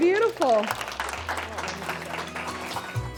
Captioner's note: audience applauds